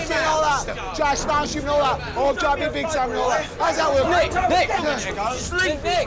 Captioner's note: shouts